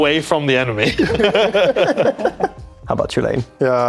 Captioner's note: laughing